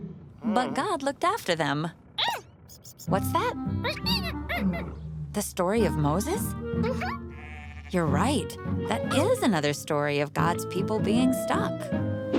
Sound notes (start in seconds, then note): 0.3 ribbit; 3.8 squeaking